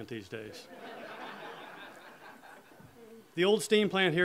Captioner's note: audience laughter